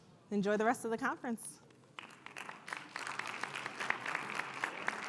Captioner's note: audience applauds